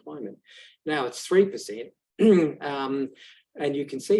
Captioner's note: coughs